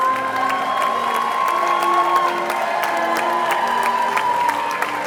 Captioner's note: all cheering and applauding